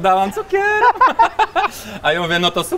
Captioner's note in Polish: śmiech